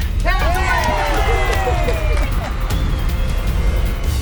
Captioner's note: laughter